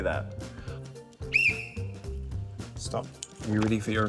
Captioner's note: whistle trills